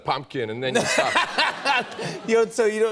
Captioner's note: laughter